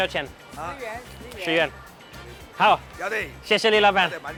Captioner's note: speaks in a foreign language; woman speaks in a foreign language; speaks in a foreign language; speak in a foreign language